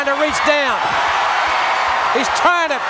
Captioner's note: crowd cheering